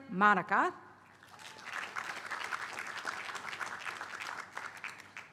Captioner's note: applause